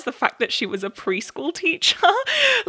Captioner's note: laughs